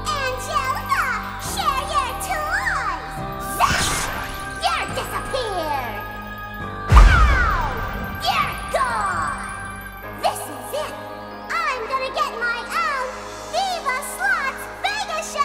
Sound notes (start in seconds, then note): 3.6 electricity zapping; 7.2 smoke puffing